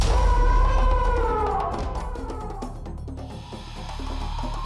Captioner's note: elephant trumpeting